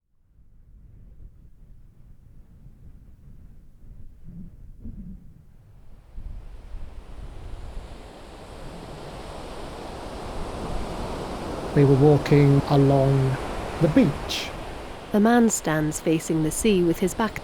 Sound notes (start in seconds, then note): 3.4 wind whooshing; 7.8 waves crashing